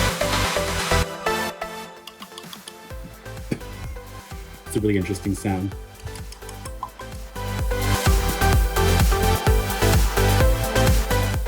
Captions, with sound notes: [Cheek slapping sound] That's a really interesting sound!